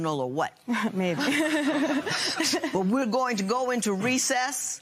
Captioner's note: laughter